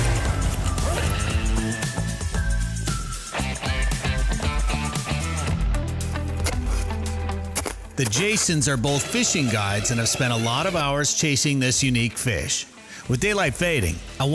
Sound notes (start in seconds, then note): 1.6 ice-jet roar